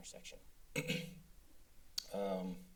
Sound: clears throat

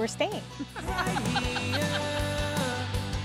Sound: laughing

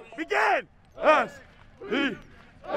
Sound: team chanting

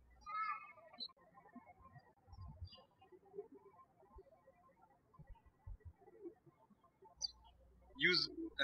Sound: birds chirping

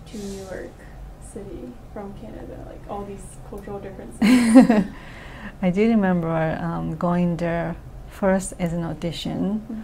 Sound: laughs

